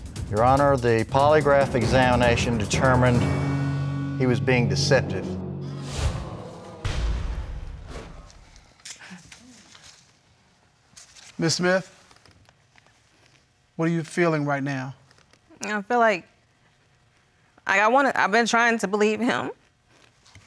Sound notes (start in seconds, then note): 5.2 audience groans; 17.3 voice breaking